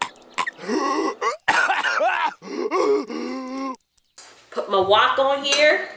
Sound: man coughs dramatically

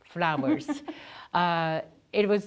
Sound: laughs

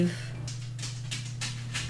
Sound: dog scuffles

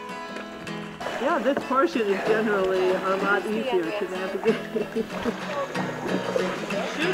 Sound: acoustic guitar; laughs

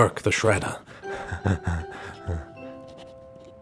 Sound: nervous Laugh

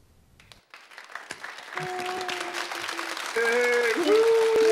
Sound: audience applauding

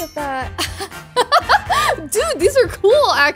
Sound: chuckles

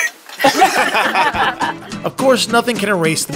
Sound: laughing

